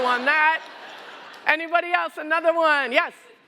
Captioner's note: laughter